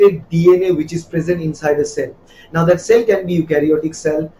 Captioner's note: Arabic